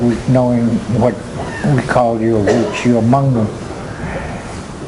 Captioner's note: speaking native tongue